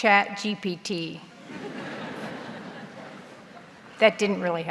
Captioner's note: audience laughs